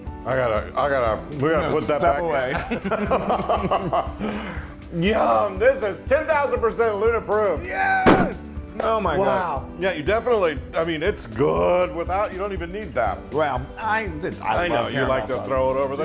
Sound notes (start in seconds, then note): 2.6 laugh